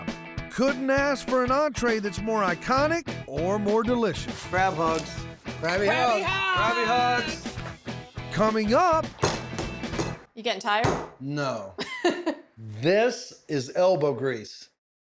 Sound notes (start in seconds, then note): 9.1 pounding sound; 11.8 laughs